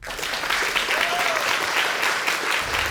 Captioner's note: whooping and applause